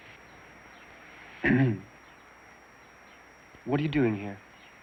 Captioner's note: clears throat